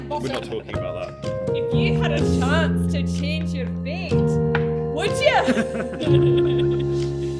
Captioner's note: awful scottish accent